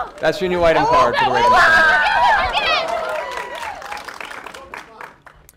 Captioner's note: cheering